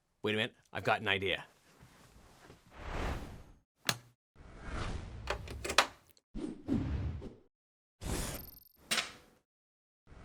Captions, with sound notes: Wait a minute, I've got an idea. (amp clicking on) (headphones plugging in)